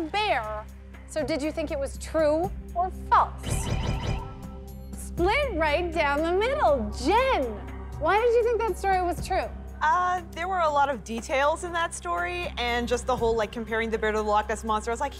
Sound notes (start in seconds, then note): none